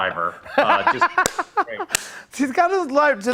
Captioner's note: laughs